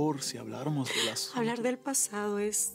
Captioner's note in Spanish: sollozos